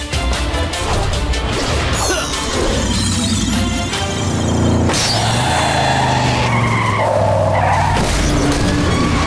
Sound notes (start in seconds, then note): 1.2 grunting; 4.5 tires screeching